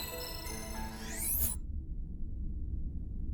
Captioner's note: electrical sound effect